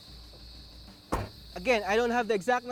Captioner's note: tailgate closes